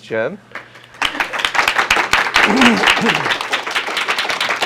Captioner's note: applause